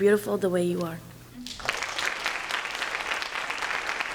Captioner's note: applause